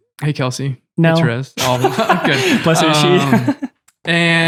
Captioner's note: group laughing